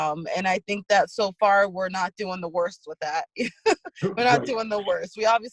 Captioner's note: laughs